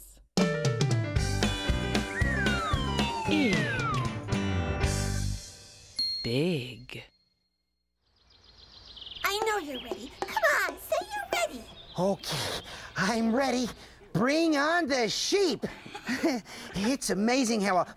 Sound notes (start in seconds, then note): 15.6 chuckles